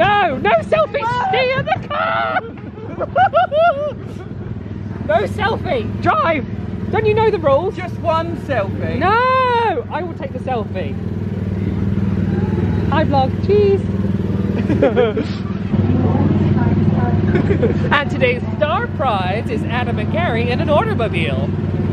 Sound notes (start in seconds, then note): 3.4 laughs